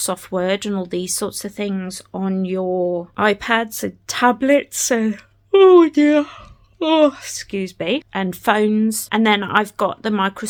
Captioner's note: yawn